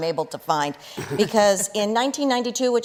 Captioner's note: chuckles